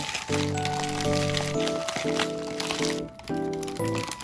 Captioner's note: sound of cracking seaweed